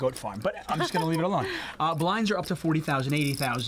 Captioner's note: laughs